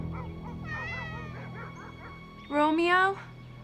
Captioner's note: cat meowing